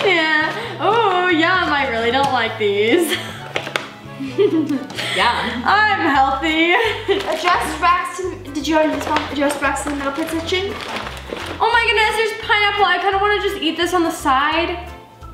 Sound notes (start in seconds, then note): 4.2 laughs; 7.4 faintly Speaks